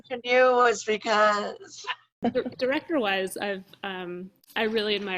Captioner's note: laughs